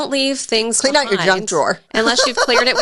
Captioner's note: laughs